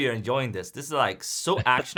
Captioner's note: laughs